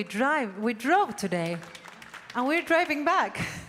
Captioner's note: audience applauding